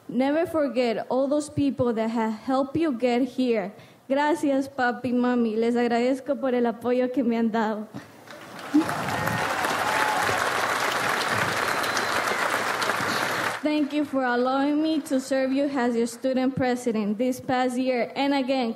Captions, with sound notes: Never forget all those people that have helped you get here. (speaks in foreign language) (audience applauds) Thank you for allowing me to serve you as your Student President this past year and again,